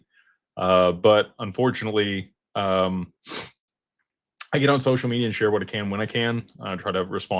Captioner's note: snorts